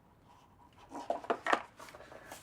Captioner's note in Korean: 선물상자 닫는 소리